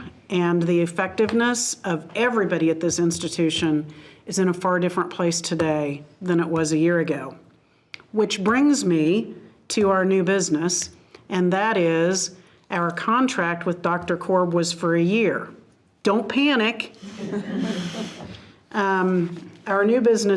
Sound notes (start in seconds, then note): 17.0 participants laughing